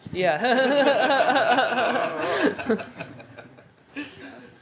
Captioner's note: laughter